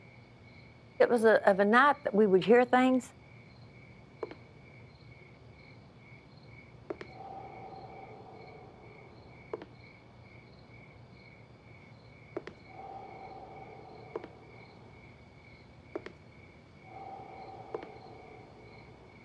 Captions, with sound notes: It was of the night that we would hear things. [tap] [tap] [tap] [tap] [tap] [tap] [tap]